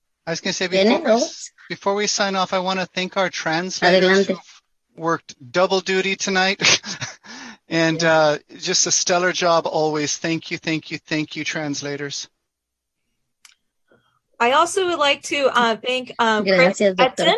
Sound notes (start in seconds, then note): 6.8 chuckles